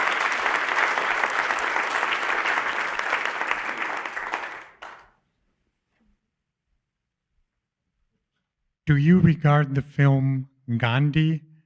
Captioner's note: applause